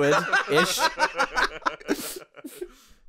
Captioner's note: laughter